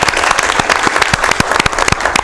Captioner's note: applause